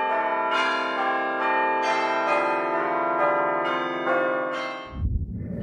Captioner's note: bells Tolling